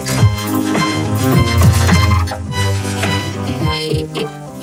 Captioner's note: glitched groaning; glitched, stuttered audio